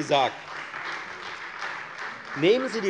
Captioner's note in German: Beifall Freie Demokraten